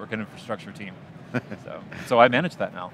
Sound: laughs

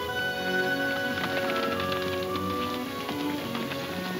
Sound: hooves slowing

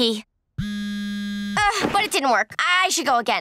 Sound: buzzing

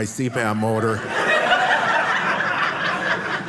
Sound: audience laughing

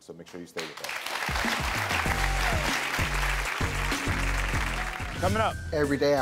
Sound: audience clapping

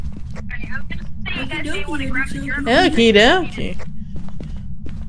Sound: over Radio; mocking; breathing in the distance

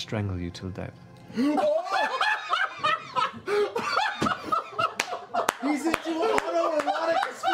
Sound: laughter

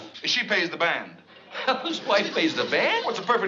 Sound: laughs

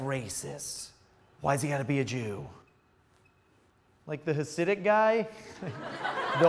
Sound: laughs

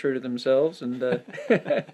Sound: laughs

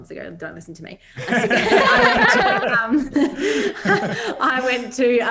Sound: all laugh

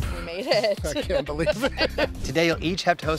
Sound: laughs

